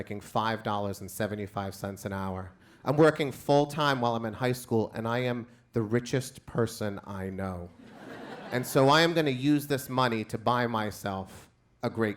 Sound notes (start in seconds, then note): 7.8 crowd laughs